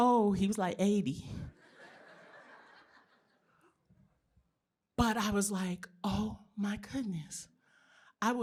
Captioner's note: laughter